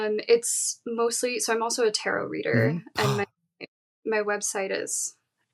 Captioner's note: gasps